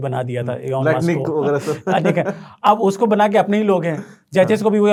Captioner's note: laughing